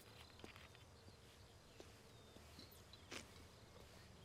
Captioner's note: birds chirping